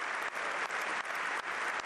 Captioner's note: applause